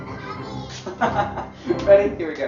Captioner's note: laughing